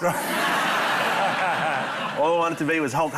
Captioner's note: laughter